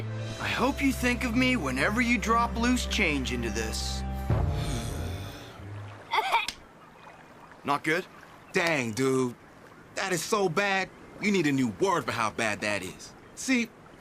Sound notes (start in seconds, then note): 4.4 DJ Sighs; 6.0 Bridgette Gagging